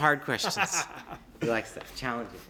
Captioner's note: laughter